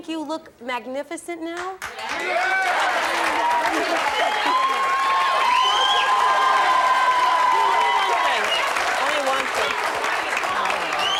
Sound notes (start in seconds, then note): 7.1 audience cheers